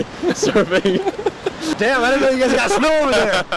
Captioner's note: chuckle